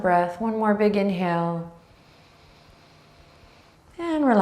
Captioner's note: breathing deeply